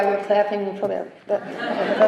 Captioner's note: laughter